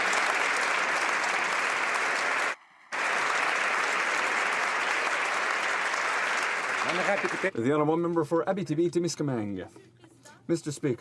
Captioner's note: applause